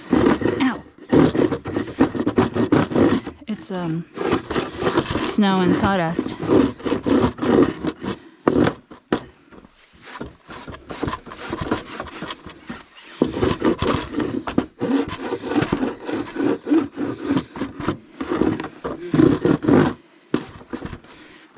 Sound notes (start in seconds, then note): 0.0 wood against plastic scraping sounds; 7.3 wood against plastic scraping sounds; 13.2 wood against plastic scraping sounds